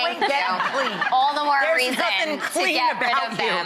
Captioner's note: laughing